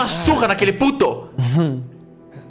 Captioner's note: laugh